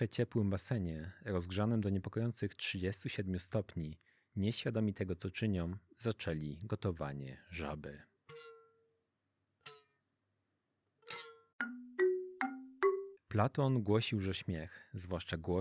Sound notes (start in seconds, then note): 8.6 clangs